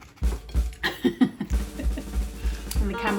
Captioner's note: laughter